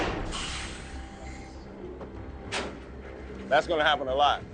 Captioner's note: door clanking